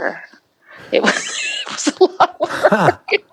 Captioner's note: laughing